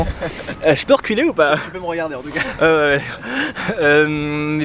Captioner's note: heavy breathing